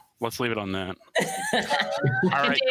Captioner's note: laughter